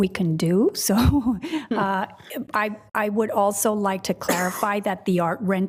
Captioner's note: laughs